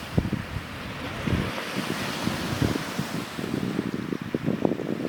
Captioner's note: sounds of waves crashing and the wind